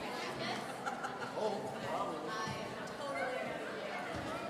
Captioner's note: laughing